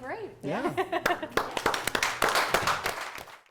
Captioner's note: applause